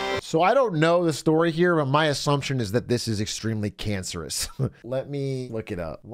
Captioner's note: laughs